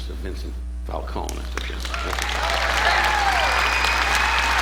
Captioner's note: audience applauding